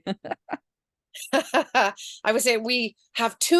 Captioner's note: laughs